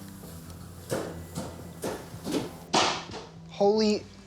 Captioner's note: thumping